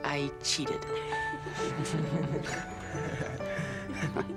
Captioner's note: laughs